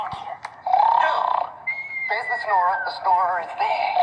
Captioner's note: snoring whistle